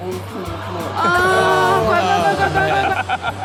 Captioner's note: speaks foreign language; Steelo laughs